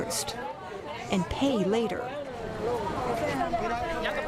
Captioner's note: speaking spanish